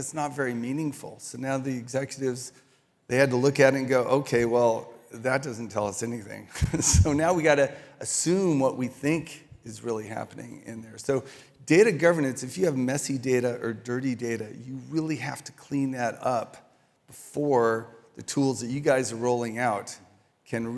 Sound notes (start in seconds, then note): 6.5 chuckles